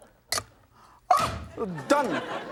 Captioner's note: audience laughs; yelps